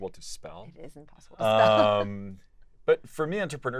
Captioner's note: laugh